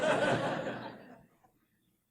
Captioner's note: laugh